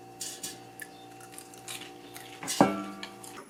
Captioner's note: crunchy